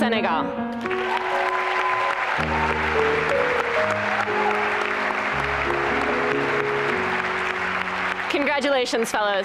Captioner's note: applause and cheering